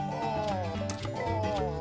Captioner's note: snap!